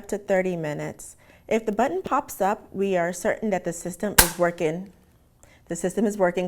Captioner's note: pop